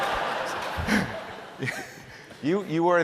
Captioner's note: laughter